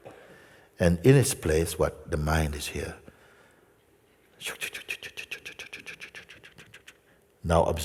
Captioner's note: makes chattering sound